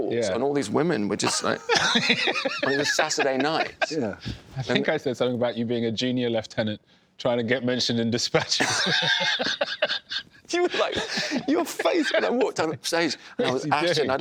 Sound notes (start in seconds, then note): 8.3 laughter